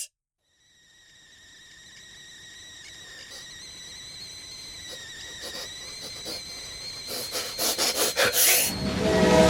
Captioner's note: kettle whistling; klaxon sound